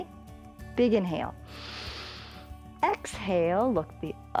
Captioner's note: inhales